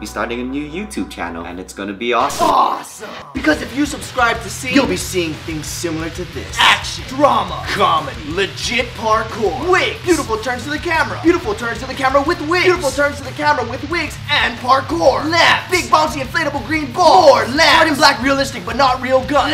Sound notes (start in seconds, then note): none